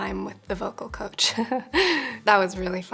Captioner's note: laughs